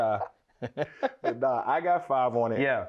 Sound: laughs

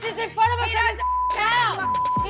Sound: beep

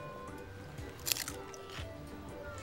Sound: crunching

